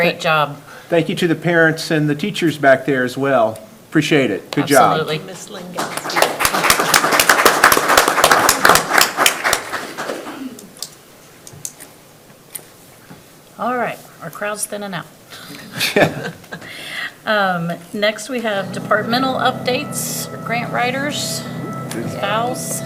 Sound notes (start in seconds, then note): 5.6 people clap; 15.5 laughs